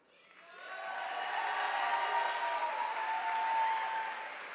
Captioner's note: audience applauding